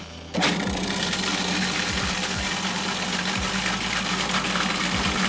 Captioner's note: food processor whirring